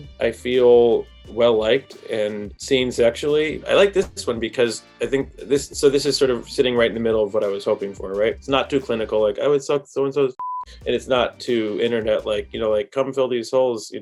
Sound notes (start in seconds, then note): 10.3 beep